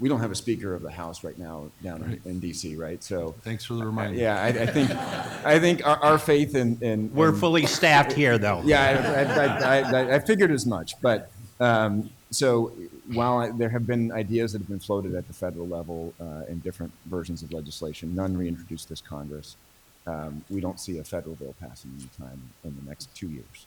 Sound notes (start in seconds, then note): 8.6 laughter